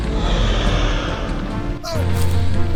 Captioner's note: roar